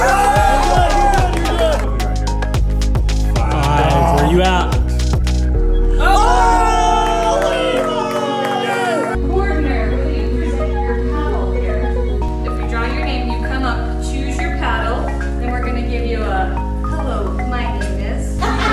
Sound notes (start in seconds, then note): 5.8 crowd cheering